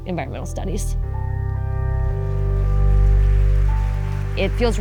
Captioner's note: gentle music; audience applauding